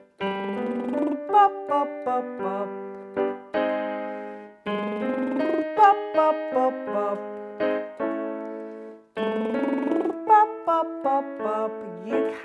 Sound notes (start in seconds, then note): 0.1 slow piano music; 0.3 lip trilling; 4.6 slow piano music; 4.7 lip trilling; 9.0 slow piano music; 9.2 lip trilling